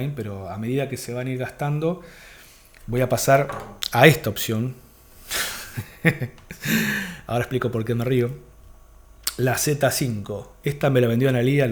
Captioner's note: hehehe